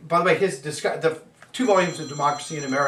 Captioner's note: phone ringing